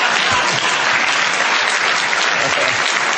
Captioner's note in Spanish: Aplausos